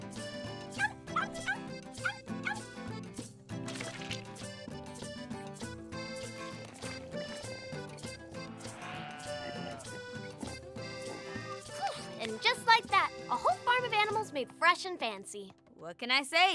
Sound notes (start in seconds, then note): 0.3 yapping; 3.7 sploosh; 8.3 sheep baaing